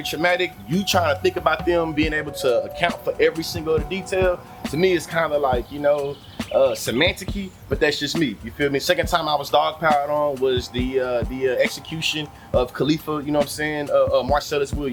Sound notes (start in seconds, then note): 3.1 birds Chirping; 5.0 birds Chirping; 7.1 birds Chirping